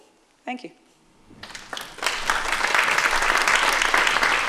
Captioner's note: applause